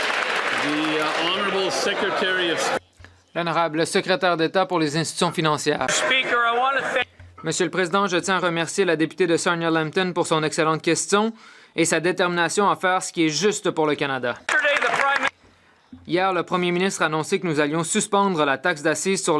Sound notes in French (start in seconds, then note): 2.0 applaudissements; 7.6 voix de l'interprète